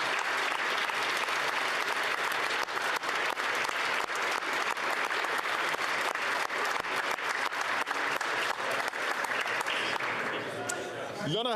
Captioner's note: some Applause